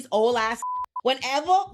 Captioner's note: beeping